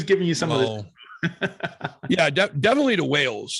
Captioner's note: laughing